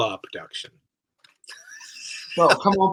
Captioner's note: laughs